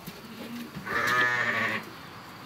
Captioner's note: bleating